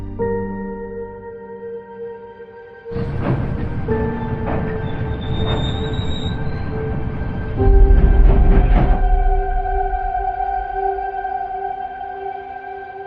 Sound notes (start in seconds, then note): 0.1 somber music playing; 5.2 train screeching